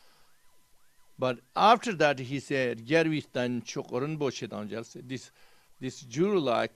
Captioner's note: tibetan